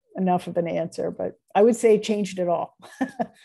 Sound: laughter

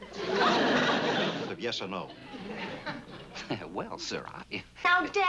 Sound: laughs shyly

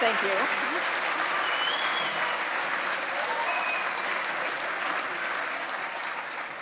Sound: audience applauds and cheers; audience members whistle

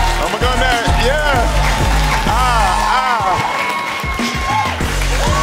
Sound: audience cheers

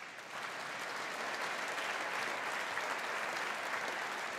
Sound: audience applauding

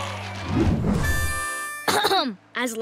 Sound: clearing throat

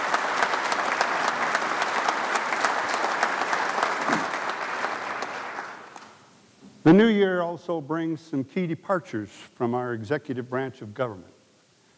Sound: applause

